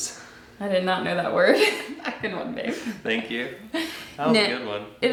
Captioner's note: laughs